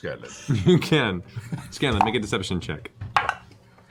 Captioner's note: laughs